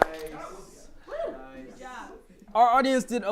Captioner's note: applause